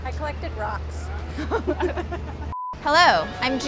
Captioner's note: both laughing